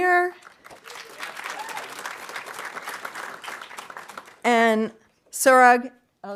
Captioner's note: audience applauding